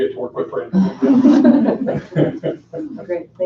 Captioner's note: laughing